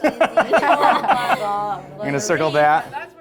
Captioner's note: laughter